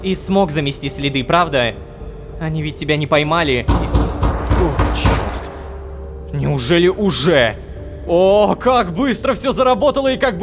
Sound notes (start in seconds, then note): 3.6 knock on door